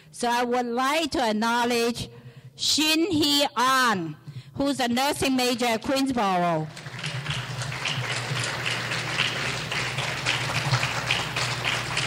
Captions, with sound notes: so I would like to acknowledge Shin Hee An, who is a nursing major at Queensborough. (clapping)